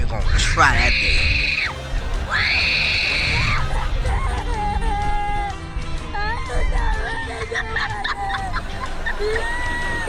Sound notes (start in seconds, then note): 2.2 screaming continues; 3.8 crying